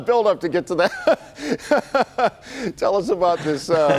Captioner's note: laughter